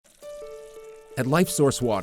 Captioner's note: gentle music; water running; voiceover